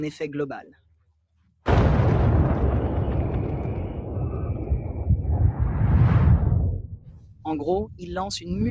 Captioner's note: explosion